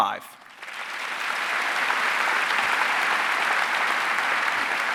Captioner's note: audience applauding